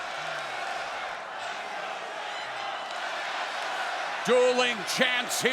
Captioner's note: crowd chants "Let's go Ciampa/Aleister"